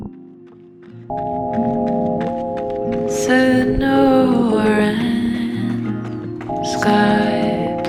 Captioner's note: sound of running on gravel